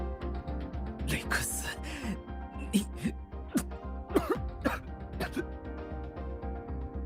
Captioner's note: cough